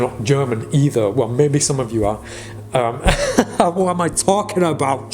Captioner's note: laughs